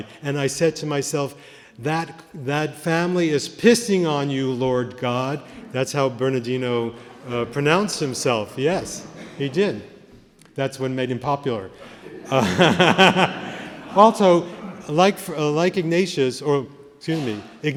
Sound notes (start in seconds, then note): 11.8 laughter